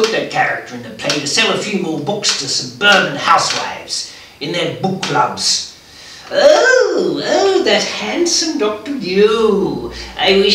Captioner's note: puts on woman's voice